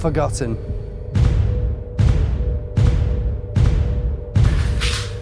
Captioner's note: loud bangs